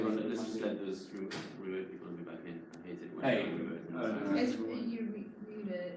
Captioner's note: employees murmur simultaneously